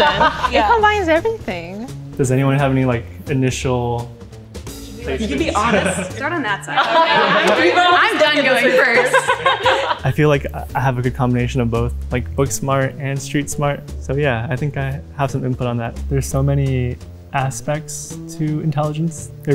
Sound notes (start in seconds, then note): 0.0 laughing; 5.4 laughing; 7.6 all talking and laughing